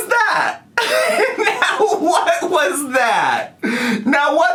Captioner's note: laughs